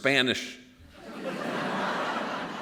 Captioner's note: laughter